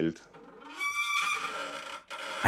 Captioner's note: squeaking, creaking